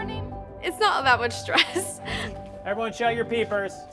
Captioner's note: laughs